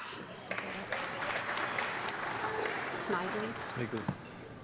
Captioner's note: audience clapping